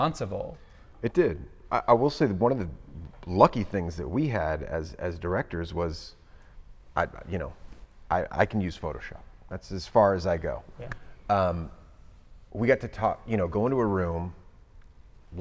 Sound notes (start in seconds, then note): none